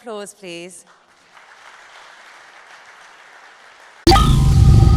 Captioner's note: applause